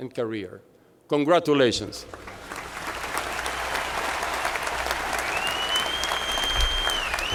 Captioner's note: applause